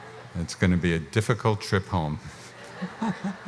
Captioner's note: laughs